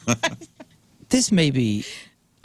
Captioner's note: laughing